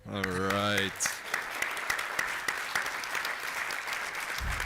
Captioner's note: applause